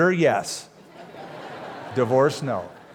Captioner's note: laughter